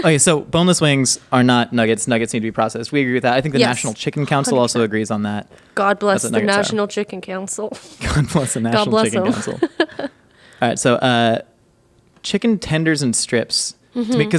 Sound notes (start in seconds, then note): 8.1 laughing